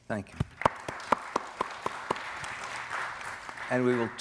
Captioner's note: audience applauding